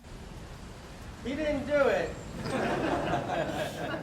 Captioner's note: laughter